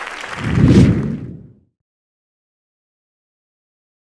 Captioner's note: transition whooshing